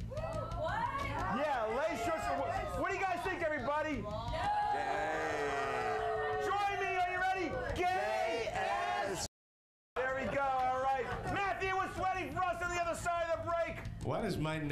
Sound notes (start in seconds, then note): 4.3 audience boos